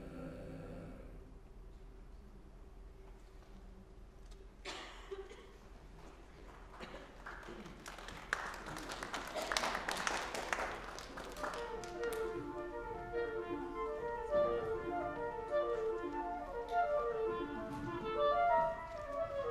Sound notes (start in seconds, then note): 6.4 scattered applause; 17.1 serene, playful woodwind music